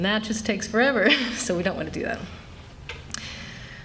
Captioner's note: laughter